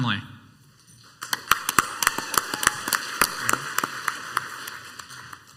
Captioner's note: crowd applauds